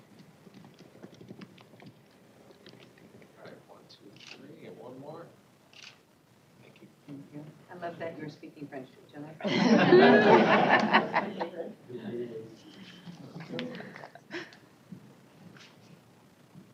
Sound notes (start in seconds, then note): 7.3 indistinct chatter; 7.3 laughter